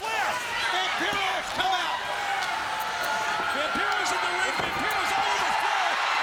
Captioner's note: commentators vocalizing; crowd shouting drowns out commentators